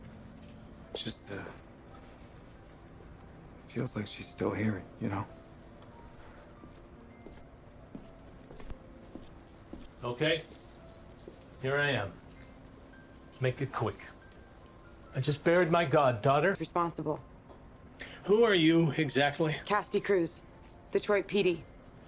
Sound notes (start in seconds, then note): 5.2 footsteps approaching